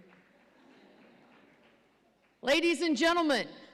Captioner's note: audience laughs